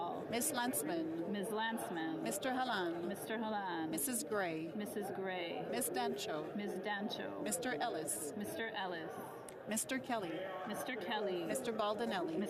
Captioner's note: calling of recorded vote